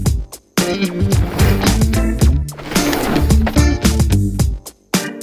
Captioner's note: tires scratching; tires scratching; upbeat music